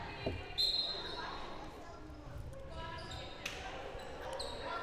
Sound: whistle blowing

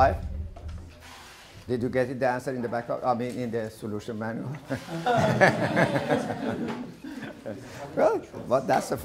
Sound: laughter

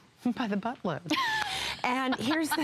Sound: laughter

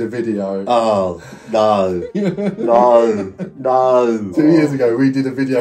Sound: laughing

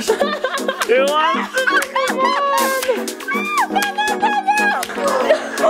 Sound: everyone laughing and shouting

